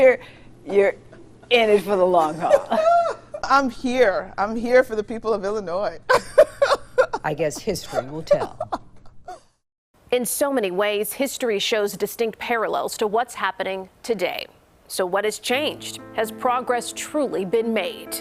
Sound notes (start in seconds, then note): 0.1 laughs; 6.2 laughs; 7.3 voiceover; 15.5 gentle music